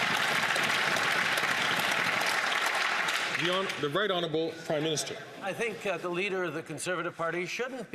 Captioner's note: some Applause